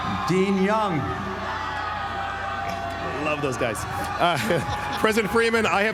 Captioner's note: applause